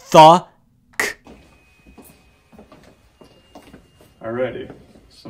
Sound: footsteps

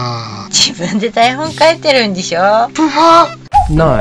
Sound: laughs

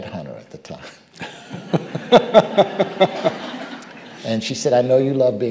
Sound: audience laughing

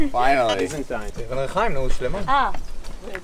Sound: non-English speech

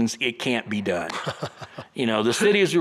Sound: chuckles

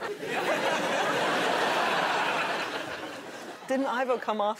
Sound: audience laughing

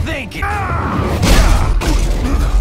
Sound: war scream

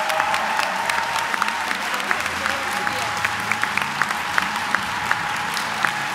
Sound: applause

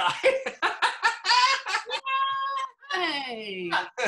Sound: laughs

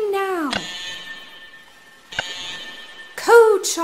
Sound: alarm tones

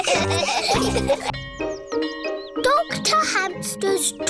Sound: all laughing; bell tolling

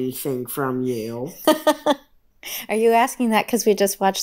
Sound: laughs

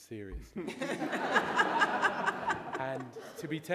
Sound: audience laughing

